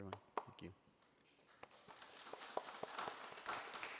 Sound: applauding

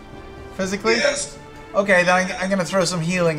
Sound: strained

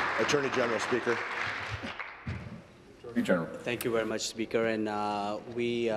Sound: applause

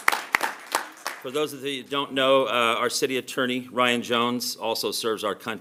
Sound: applause

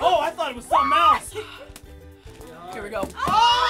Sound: sighing

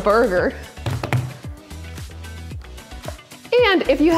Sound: hands tapping

